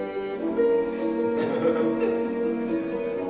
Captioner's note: laughter